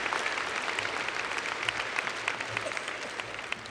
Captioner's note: applause